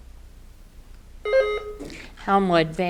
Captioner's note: button buzzing